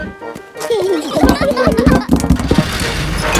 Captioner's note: children giggling